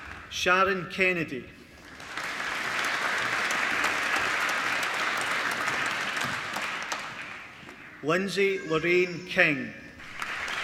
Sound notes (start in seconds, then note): 1.8 applause; 10.0 applause